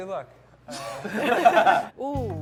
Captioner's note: group laughs